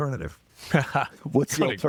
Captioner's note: laughing